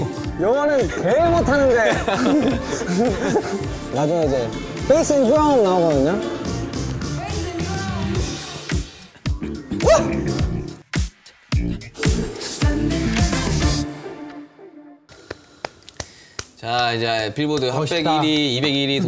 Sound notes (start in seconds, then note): 1.9 mouth cave opens; 6.4 bass and Drum